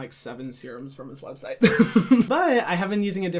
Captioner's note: laughs